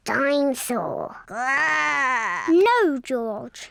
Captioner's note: growls